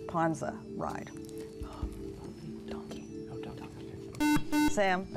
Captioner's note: whispering; buzzer